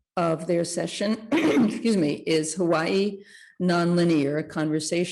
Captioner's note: clears throat